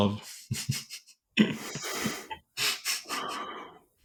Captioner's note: laughs